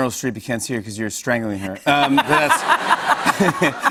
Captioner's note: laughter